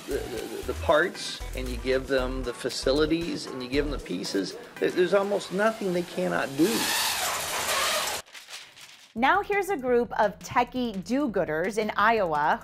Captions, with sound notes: the parts and you give them the facilities and you give 'em the pieces, there's almost nothing they cannot do. (machine whirring) - Now here's a group of techy do-gooders in Iowa